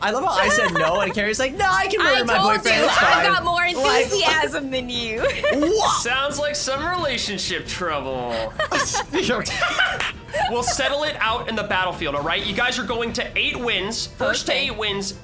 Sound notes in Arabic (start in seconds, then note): 8.3 يضحك دراماتيكي